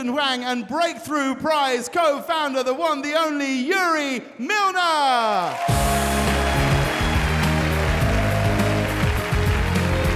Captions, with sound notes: and Breakthrough Prize co-founder, the one and only Yuri Milner. (audience cheering and applauding)